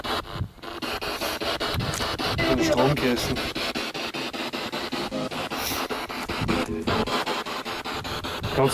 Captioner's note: radio noise from the spirit box